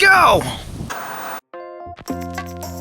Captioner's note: TV Static; gentle instrumental music